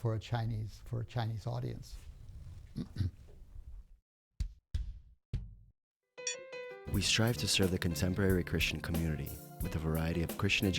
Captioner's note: clears throat